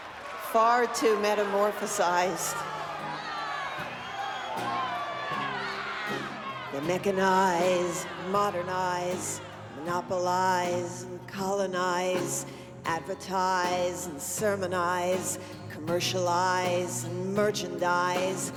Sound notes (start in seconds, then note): 4.2 crowd shouting; 4.2 guitar strumming